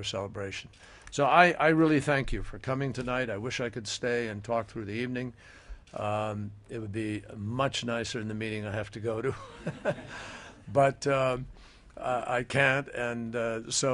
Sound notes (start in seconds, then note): 9.3 laughter